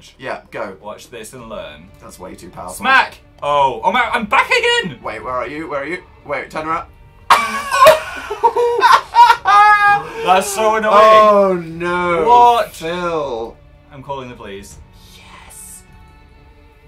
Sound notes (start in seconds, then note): 7.3 laughs and claps; 15.1 whispers